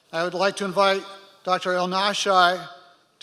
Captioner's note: none